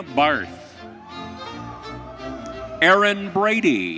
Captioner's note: audience cheering